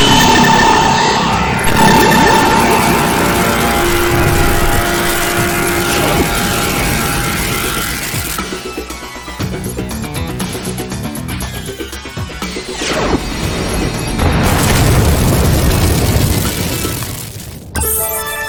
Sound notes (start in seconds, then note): 0.1 electricity crackling; 1.1 explosions booming; 9.4 upbeat music continues; 13.1 laser blasting; 14.9 explosion booming; 17.8 chime ringing